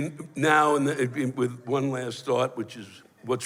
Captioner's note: stammers